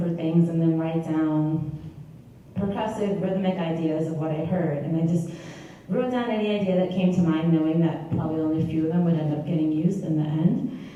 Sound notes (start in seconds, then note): none